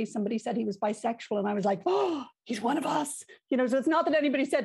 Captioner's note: gasp